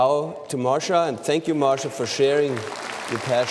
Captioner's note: applause